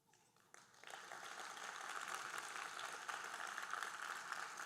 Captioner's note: audience applauding